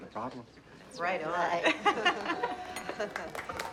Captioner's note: laughs